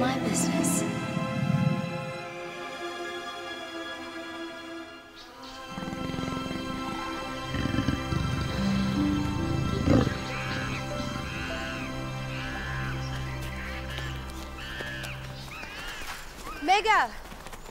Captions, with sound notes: is my business. (lion growling quietly) - Mega.